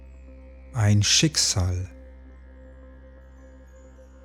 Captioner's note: german